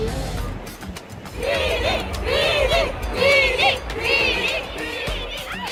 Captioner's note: crowd cheering “ ”